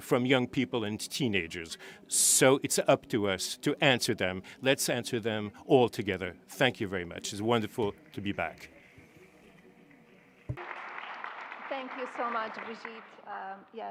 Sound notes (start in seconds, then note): 10.4 applause